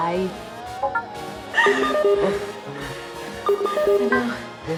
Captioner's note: phone notification beeps